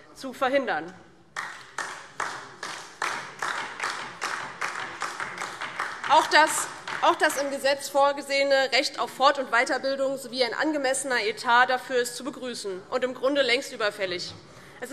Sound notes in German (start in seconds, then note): 4.3 Beifall DIE LINKE